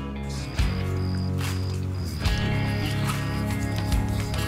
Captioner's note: crickets chirping